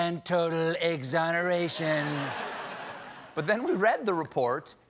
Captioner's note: laughter